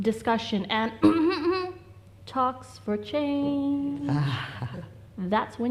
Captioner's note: clears throat loudly